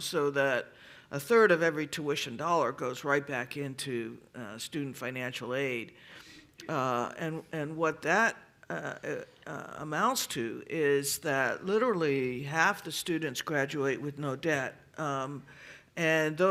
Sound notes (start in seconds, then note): none